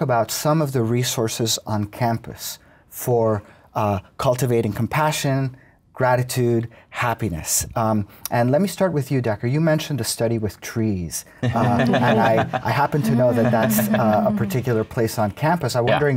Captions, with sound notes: some of the resources on campus for cultivating compassion, gratitude, happiness. And let me start with you, Dacher. You mentioned a study with trees. (everyone laughs) I happen to know that that's a particular place on campus. I'm wondering if --